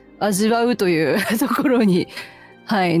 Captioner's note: laughter